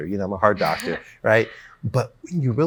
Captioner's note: laughs